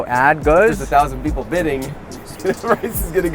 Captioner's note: laughs